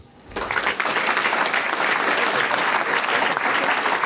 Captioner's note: audience clapping